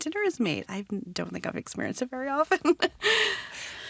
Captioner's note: laughs